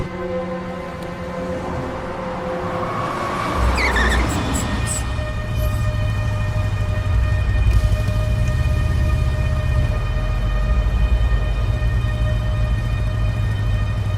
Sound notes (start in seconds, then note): 3.6 tire screeching; 5.9 suspenseful music